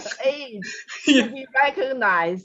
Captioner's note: chuckles